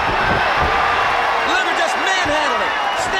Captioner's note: body thudding; crowd cheering; footsteps plodding